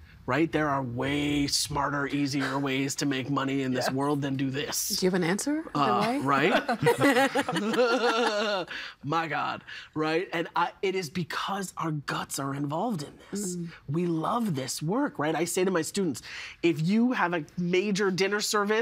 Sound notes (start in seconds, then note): 6.5 all laughing